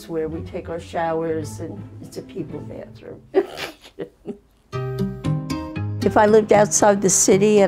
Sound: laughs

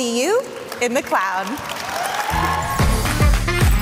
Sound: applause, cheers

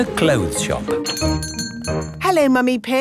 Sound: doorbell chiming

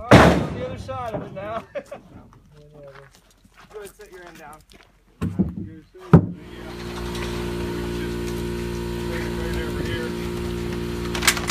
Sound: workers chatting about how to do things

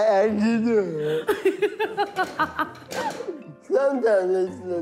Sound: laughing

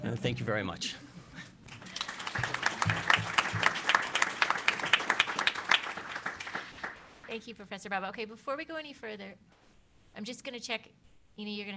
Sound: applausse

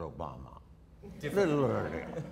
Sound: audience laughter

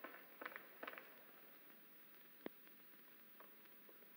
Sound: irena's footsteps stop

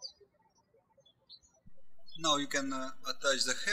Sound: birds chirping

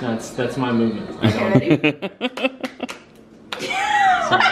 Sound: laughing

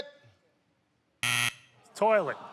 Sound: buzzer

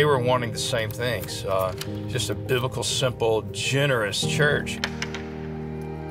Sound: clicking lock; door clicking

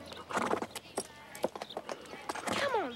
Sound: horse snorts

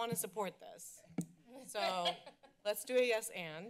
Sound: laughter

